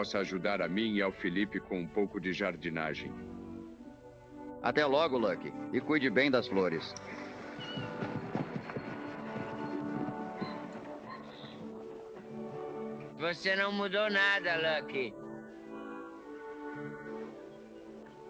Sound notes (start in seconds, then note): 7.6 evocative music; 16.5 lucky moans